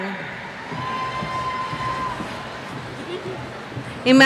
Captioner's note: cheers